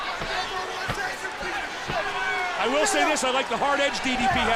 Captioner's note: crowd chatter